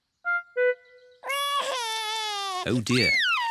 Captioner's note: cries